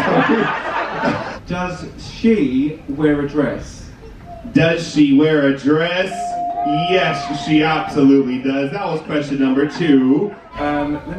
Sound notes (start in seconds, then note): 0.0 guests laughing; 6.0 bell pings